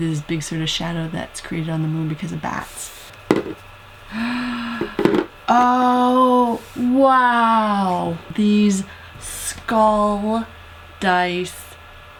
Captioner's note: gasp